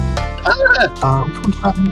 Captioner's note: dolphin-fearing noises